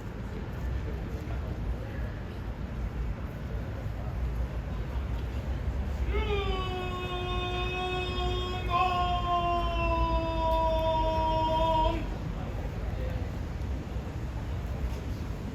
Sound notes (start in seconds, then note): 2.9 cheering; 2.9 cheers and applause